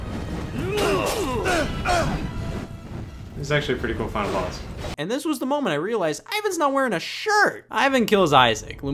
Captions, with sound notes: (Ivan and Isaac grunt) (swords clashing) - He's actually pretty cool final boss. And this was the moment I realized I was not wearing a shirt! Ivan kills Isaac.